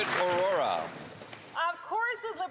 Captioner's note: some Applause